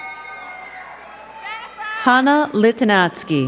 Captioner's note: crowd cheering and clapping